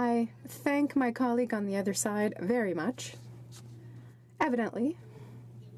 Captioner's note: speaking French